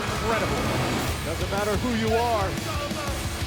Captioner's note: bell ringing